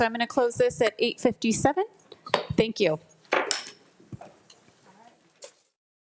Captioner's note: gavel thuds